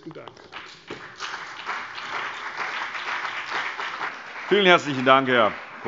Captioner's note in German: Beifall CDU und BÜNDNIS 90/DIE GRÜNEN